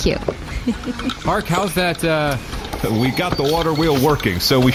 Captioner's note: chuckling